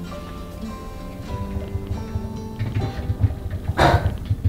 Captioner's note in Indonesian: suara keyboard; bruk!